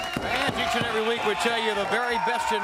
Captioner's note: crowd cheering